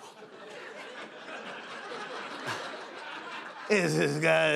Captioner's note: laughter